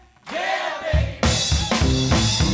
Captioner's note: crowd